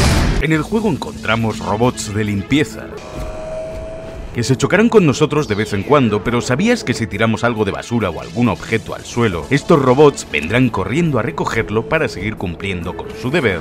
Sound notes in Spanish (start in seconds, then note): 0.0 Explosión; 2.7 Sonido robot